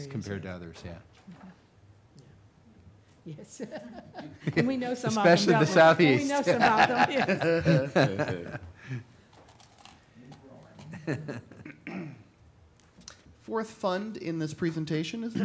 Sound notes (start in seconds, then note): 3.5 laughing; 7.2 all laughing